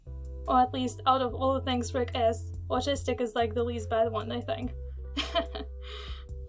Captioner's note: chuckle